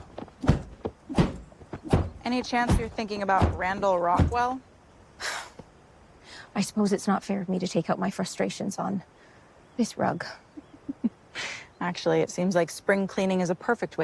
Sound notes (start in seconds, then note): 5.2 sighs